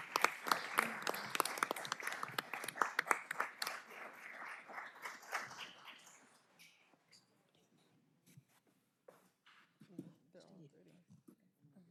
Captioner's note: applause